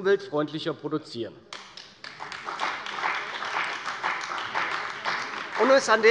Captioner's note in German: Beifall bei der CDU und dem BÜNDNIS 90/DIE GRÜNEN